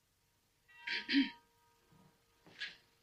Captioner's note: ahem